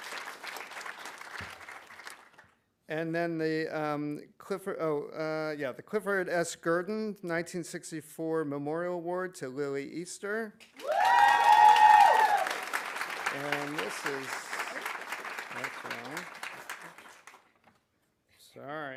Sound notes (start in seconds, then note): 10.7 audience applauding; 10.8 audience cheering